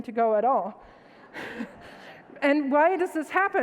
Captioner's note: audience laughs